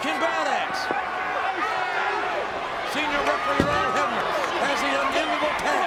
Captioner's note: applause